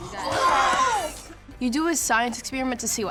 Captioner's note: children Exclaim